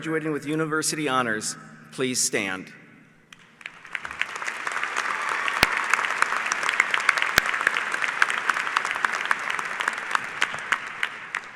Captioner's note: applause